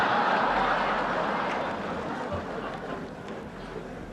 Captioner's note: audience laughing